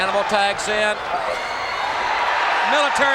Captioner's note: crowd shout